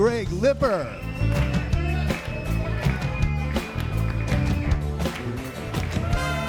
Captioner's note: upbeat music continues; audience applauding